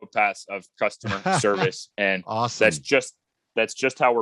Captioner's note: laughs